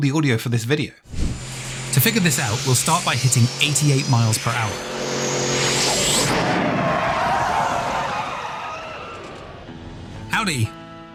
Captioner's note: car speeding